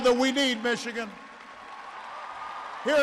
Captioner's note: applause